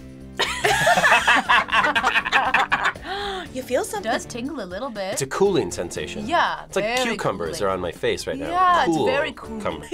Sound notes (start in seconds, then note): 0.4 both laugh; 3.0 gasps